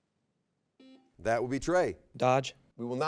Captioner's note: buzzer beeps